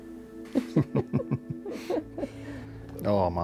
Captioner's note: chuckling